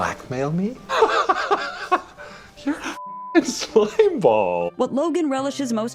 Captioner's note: laughs